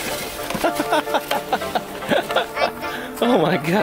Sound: laughter

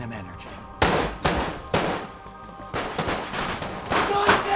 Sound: gun shooting

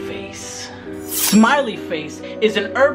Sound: knife sharpening

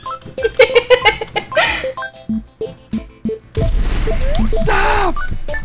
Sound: laughs

